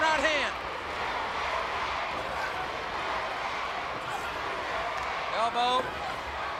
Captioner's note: crowd cheering